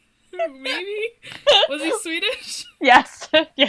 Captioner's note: laughs